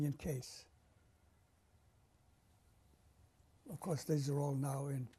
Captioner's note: pauses for 3 seconds